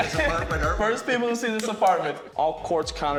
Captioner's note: laughing